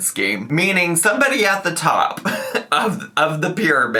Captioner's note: laughs